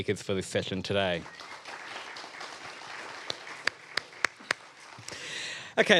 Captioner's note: audience applauding